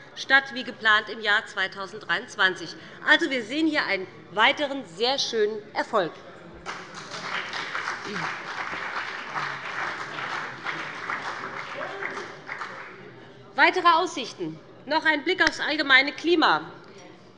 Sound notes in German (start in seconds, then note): 6.6 Beifall bei dem BÜNDNIS 90/DIE GRÜNEN und der CDU